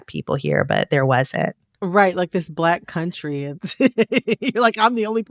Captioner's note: laughter